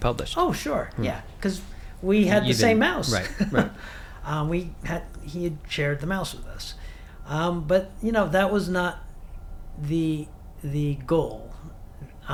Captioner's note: chuckles